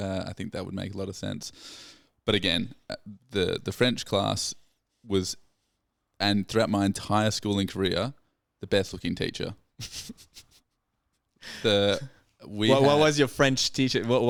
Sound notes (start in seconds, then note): 10.5 laughing